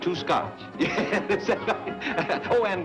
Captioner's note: Haskell laughs